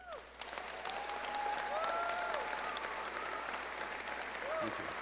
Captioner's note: cheering